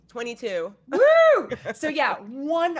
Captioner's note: cheers